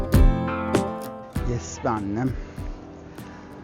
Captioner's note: Cyprus Accent